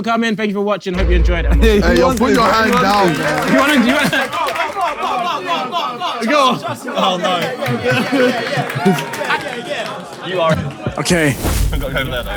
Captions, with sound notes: - Thank you all for coming, thank you for watching. Hope you enjoyed it. [people in room clapping] - Ay yo, put your hands down, bro. - Do you wanna? - Come on, come on, come on, come on, come on! [people in room applauding] - Okay. Huh?